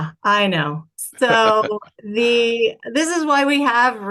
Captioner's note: laughs